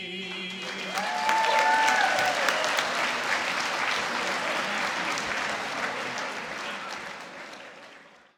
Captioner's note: applause